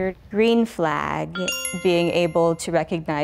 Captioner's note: bell dings